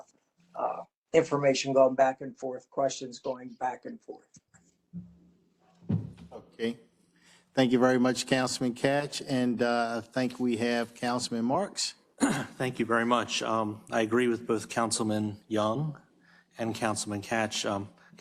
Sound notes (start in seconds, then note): 12.2 cough